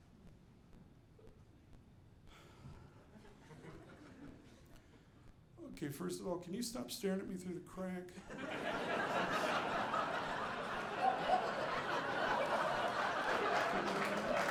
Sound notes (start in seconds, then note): 8.3 audience laughing; 13.6 audience applauding